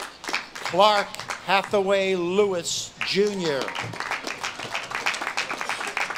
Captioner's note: audience claps and cheers